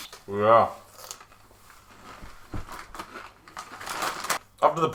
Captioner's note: munches on Doritos